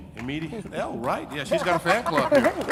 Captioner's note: audience applauding